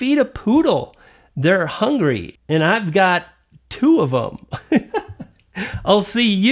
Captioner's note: laughing